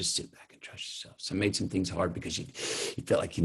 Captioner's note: inhales